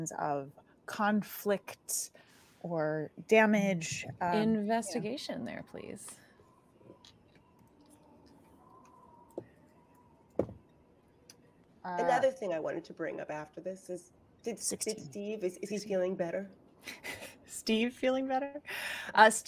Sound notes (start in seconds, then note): 7.4 dice clacking